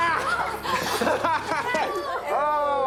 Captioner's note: laughing